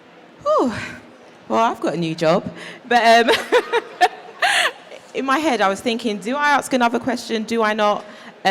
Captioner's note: laughs